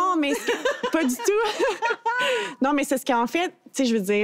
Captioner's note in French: rires